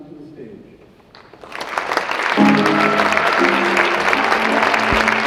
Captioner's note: audience clapping; jazz music